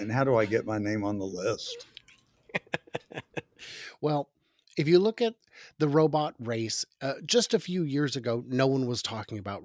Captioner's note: laughter